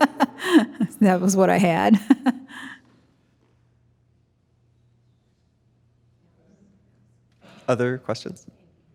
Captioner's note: chuckling; chuckles